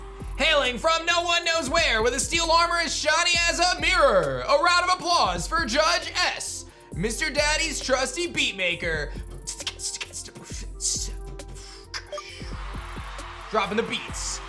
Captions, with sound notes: Hailing from no one knows where, with a steel armor as shiny as a mirror. A round of applause for judge S, Mr. Daddy's trusty beatmaker. (beatboxes) Dropping the beats.